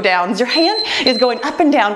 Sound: timer beeps

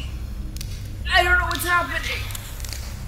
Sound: bones snapping and hissing noises

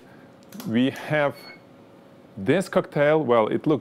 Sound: camera clicks

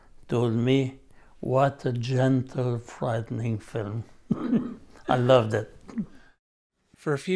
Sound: laughter

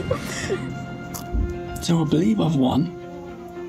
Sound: whispering

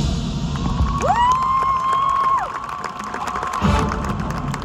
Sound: cheering

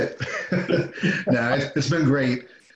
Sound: laughing

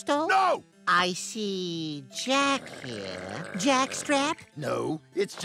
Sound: growling

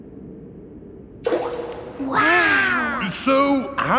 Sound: rock plops

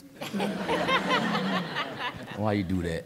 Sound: laughter

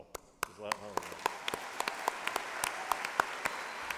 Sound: applause

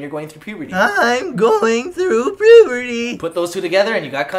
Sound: cracky voice

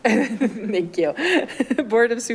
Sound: clerk chuckles

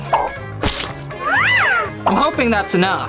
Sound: container spurts

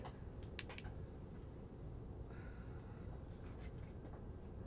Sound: torch clicking

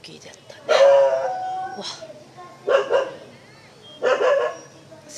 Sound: A dog barks…

